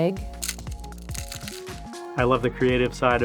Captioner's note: cone cracking